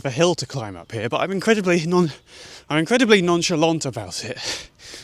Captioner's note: out of breath